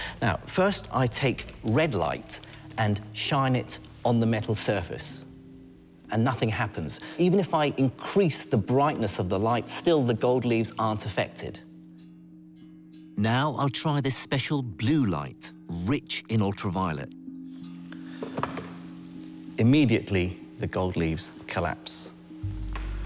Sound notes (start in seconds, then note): 13.4 voiceover